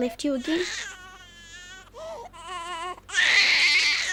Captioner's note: baby crying